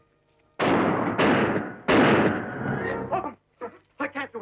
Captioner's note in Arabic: صوت البنادق